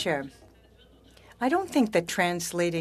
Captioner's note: speaking French